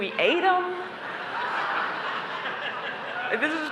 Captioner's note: laughter